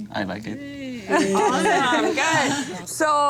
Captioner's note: all laugh